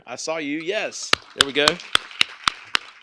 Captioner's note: applause; clapping